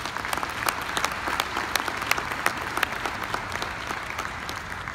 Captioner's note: audience applauding